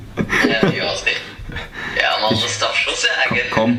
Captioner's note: evil laugh